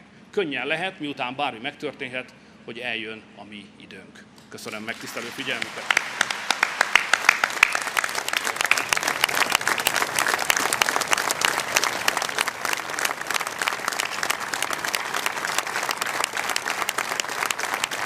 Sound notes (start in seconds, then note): 6.6 applause